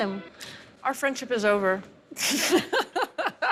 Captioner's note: laughs